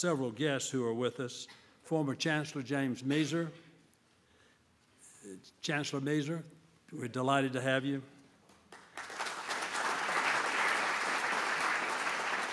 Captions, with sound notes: several guests who are with us, former Chancellor James Moeser, Chancellor Moeser, we're delighted to have you. (applause)